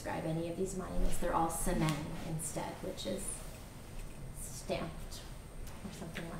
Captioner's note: non-english